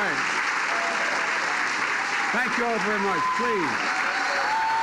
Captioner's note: applause